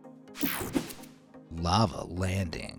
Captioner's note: graphics whooshing